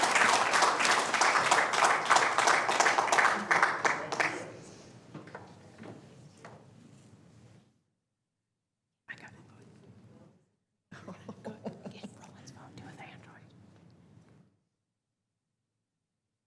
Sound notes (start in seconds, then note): 9.4 applause